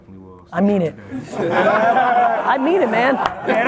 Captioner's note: laughs; applauding